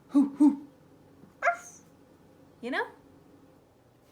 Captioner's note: mimics puppies barking